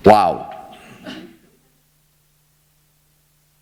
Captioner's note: laughter